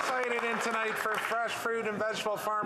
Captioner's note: cheering and APPLAUSE